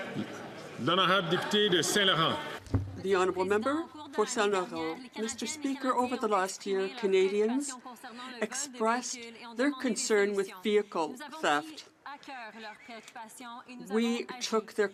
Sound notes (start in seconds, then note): 7.0 speaking French